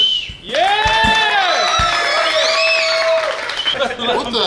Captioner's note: cheering & Clapping